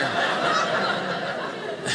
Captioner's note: audience laughing